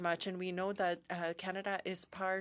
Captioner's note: speaking French